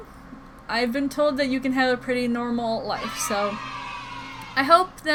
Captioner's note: children cheering "Yay!"